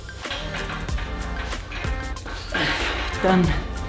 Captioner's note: exhales